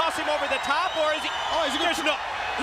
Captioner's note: crowd cheering